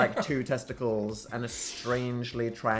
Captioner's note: Phil chuckles